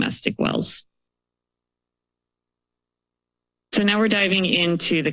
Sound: pause

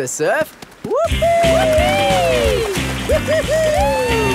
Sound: both whooping

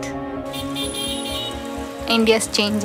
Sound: horns honking

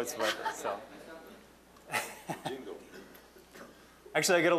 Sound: audience laughing

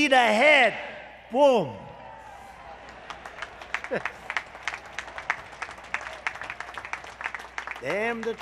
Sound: applause

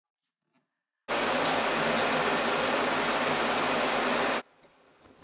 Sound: shower running

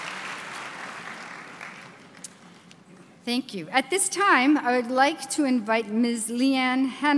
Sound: applause

